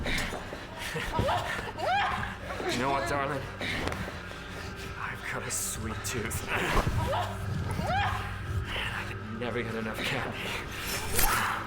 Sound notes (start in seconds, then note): 1.1 screaming; 6.2 grunting